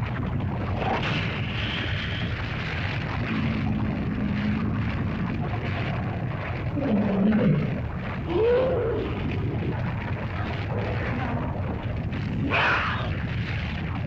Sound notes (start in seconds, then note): 0.0 lava bubbles & flows; 0.2 dinosaur growls & grumbles; 0.2 fire crackles; 6.7 dinosaur cries out; 9.4 fire crackles; 9.4 lizard growls & grumbles; 12.5 lizard yelps